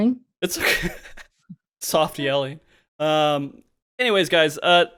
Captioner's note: laughs